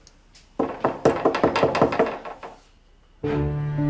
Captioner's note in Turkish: Kapı tıklatma sesi